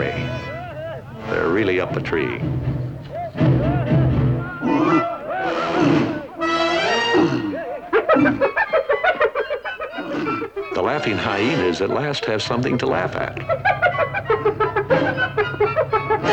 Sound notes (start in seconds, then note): 2.6 men yelling; 4.4 grunts; 5.4 rhino grunts; 7.8 yipping